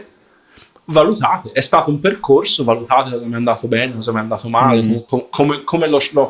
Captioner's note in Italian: sbuffare